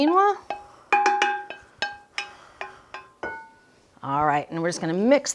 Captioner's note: metal clanging